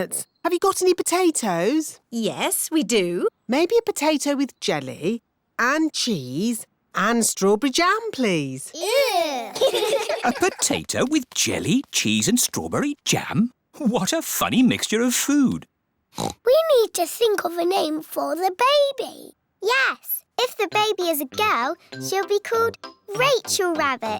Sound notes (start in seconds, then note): 8.8 giggling; 16.1 oinks